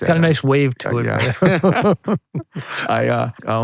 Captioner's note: both laughing